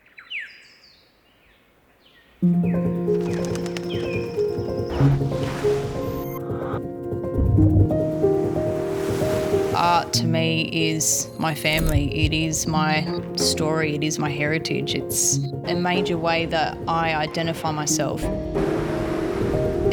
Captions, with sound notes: (gentle music) Art to me is my family. It is my story, it is my heritage. It's a major way that I identify myself. (engine noise revving) (thunder rumbling)